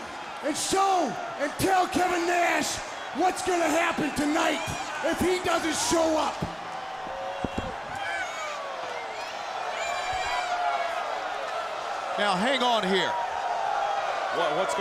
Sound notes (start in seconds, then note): 4.4 crowd cheering; 7.0 crowd chatter